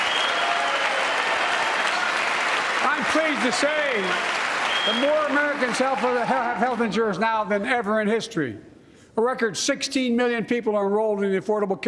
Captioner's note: applause